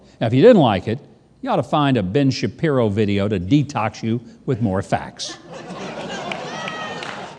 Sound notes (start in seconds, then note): 5.3 audience laughs